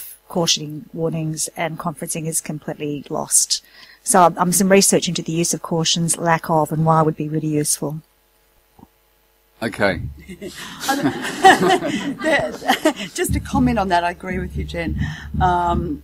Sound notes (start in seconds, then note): 10.2 laughter